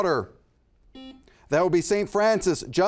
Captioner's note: buzzer buzzes